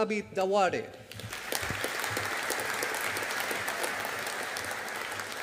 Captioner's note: audience applauding